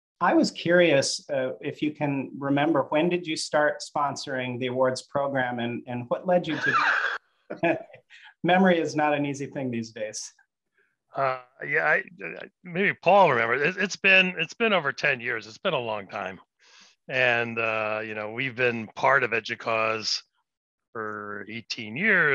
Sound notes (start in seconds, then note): 6.5 laughing